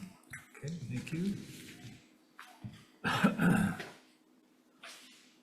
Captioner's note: coughs